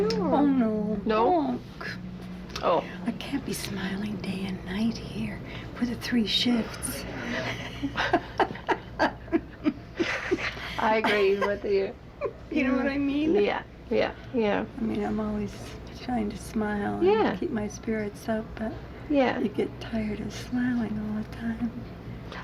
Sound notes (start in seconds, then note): 7.0 laughing